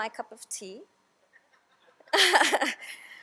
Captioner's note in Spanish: todos se rien